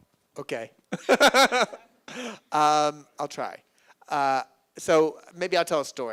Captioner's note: laughs